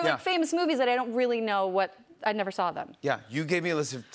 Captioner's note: none